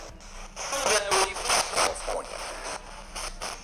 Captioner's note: spirit box voice